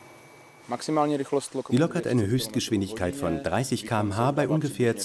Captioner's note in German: tschechisch